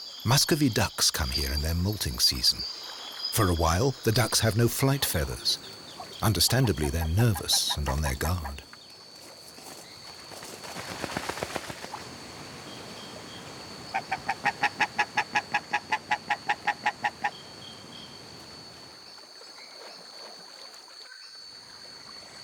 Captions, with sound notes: Muscovy ducks come here in their molting season. For awhile, the ducks have no flight feathers. Understandably they're nervous and on their guard. (wings flapping) (ducks quacking)